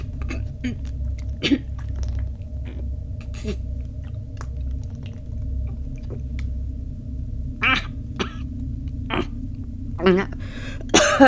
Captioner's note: gagging, coughing